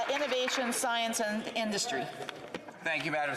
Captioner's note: applause